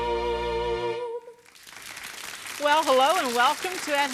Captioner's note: audience claps